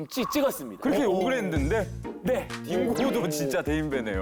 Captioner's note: astonished